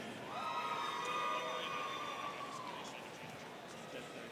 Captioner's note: students cheering